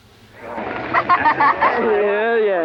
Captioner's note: laughing